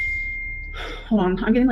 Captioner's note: ding!